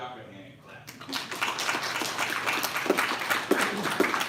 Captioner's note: applause